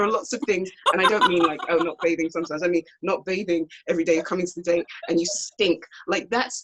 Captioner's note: laughs